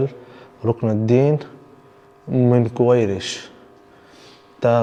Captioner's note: Arabic